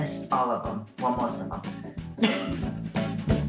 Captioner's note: laughs